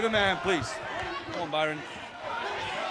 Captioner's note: crowd chatter